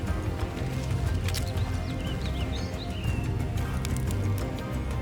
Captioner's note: branches breaking